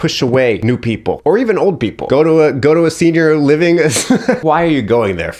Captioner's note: laughs